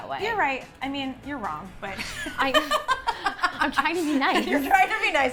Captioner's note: laughs